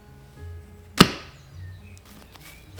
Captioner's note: dough falls onto counter